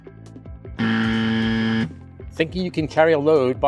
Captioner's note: buzzer